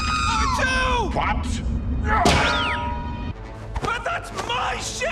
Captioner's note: screaming